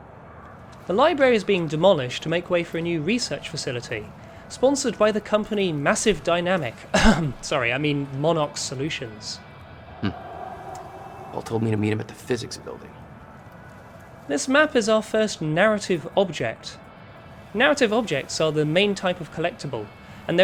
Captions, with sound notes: The library is being demolished to make way for a new research facility, sponsored by the company Massive Dynamic... *cough* sorry, I mean Monarch Solutions. This map is our first Narrative Object. Narrative Objects are the main type of collectible,